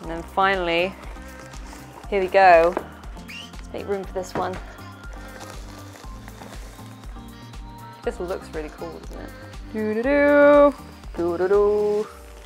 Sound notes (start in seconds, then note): 4.4 plastic crinkling; 10.0 singing